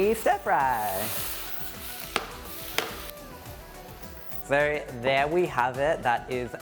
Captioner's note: food spattering